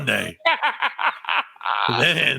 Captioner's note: laughing